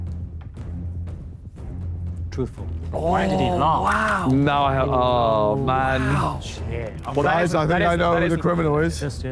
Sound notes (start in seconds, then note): 0.9 dramatic music; 5.8 Sidemen groan